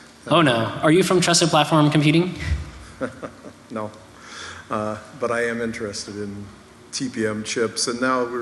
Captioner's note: laughter